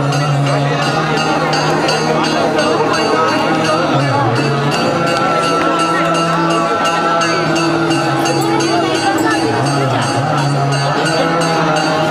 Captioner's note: sounds of chanting over loudspeaker